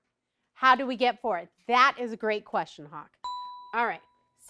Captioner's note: ding